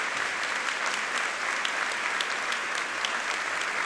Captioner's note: audience applauding